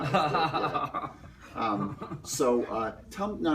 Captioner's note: Tommy laughs